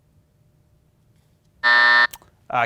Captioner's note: buzzer buzzes